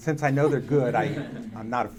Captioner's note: audience laughing